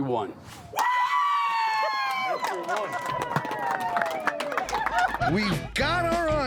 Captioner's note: cheering, clapping